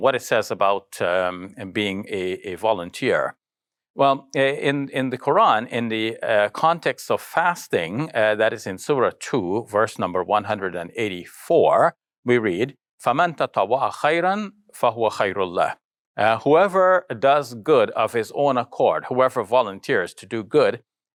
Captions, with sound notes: what it says about being a volunteer. Well in the Quran, in the context of fasting, that is in Surah two verse number 184, we read, (foreign language) "Whoever does good of his own accord, whoever volunteers to do good,